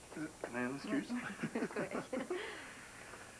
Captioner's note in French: Rires